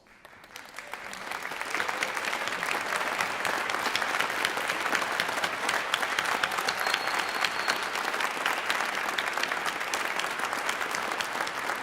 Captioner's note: applause